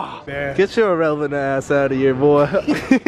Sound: laughs

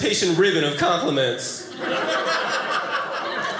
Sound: audience laughing

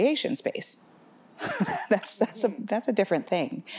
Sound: laughs

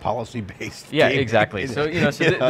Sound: laughing

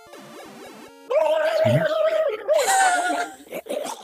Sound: Mario screaming and gasping for breath; both laughing

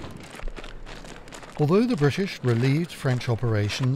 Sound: boots stomping

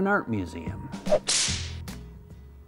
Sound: upbeat music; air whooshes; whip snaps

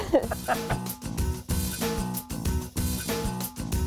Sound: laughing

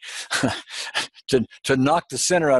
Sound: laughs

